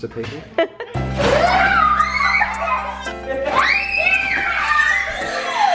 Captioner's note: kids laughing and squealing